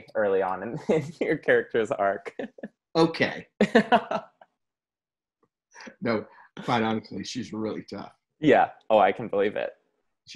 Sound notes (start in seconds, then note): 3.6 both laugh